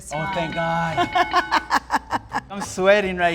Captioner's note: laughs